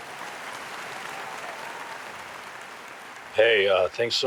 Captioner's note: audience applauds